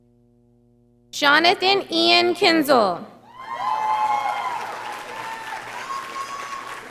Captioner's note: audience applauding